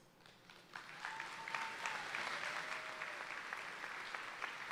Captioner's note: audience applauding